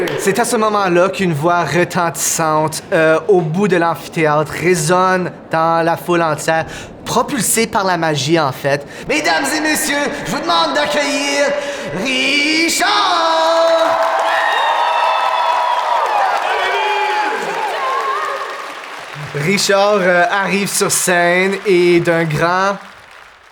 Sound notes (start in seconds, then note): 13.7 the audience cheers for Riz'shar